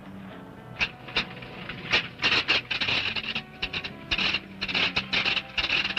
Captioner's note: plane starting